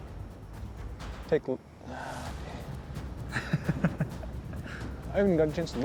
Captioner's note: sigh